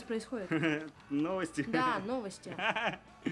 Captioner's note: laughs